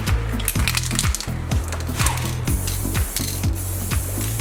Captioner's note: paint can rattles